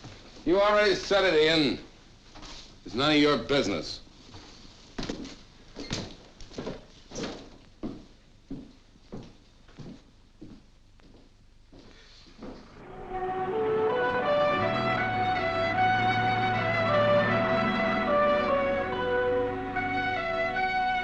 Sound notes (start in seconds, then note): 12.7 soft instrumental music; 15.5 engine humming